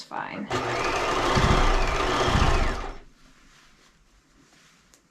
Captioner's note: sewing machine roaring